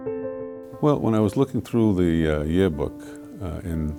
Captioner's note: voiceover